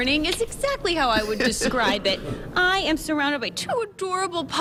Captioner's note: laughter